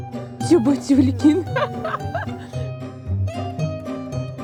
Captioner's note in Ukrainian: сміх